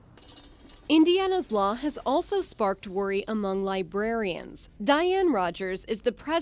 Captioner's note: voice-over